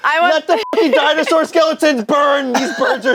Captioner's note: beep